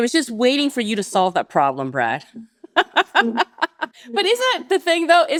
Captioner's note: laughs